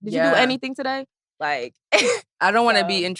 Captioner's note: laughs